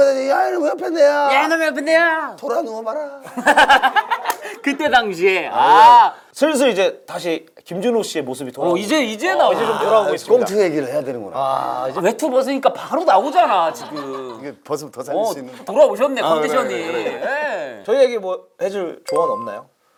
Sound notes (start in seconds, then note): 3.3 laughing